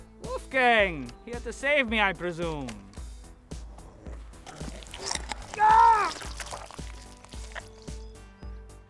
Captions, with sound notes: Wolfgang, here to save me I presume? [bite] [gasp of pain]